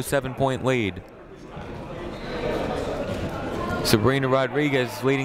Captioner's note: people talking in the crowd